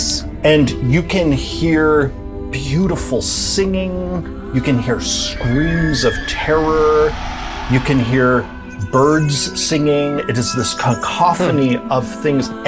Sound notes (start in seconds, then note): none